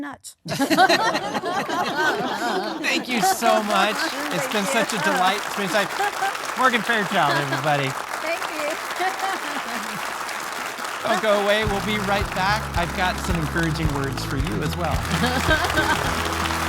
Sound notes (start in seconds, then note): 2.0 audience laughing; 10.5 audience applauding